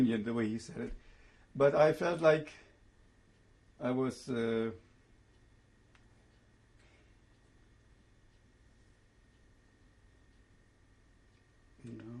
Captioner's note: pauses for 7 seconds